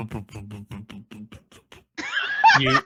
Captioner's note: laughing